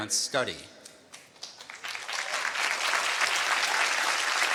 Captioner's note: applause